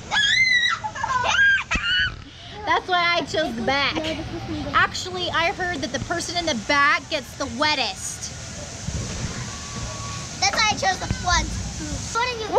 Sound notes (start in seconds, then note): 0.8 laughs; 1.2 shrieks